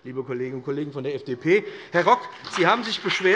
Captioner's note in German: Beifall BÜNDNIS 90/DIE GRÜNEN